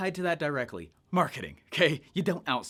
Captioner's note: laughs